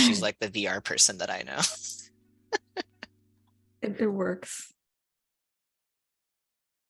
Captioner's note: laughter